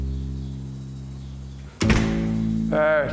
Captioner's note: door slamming shut